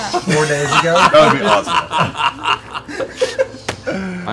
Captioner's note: laughter